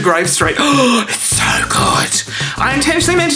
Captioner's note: gasps